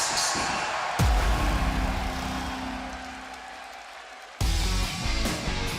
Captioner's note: cheers and applause